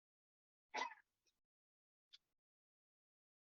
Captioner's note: minute's silence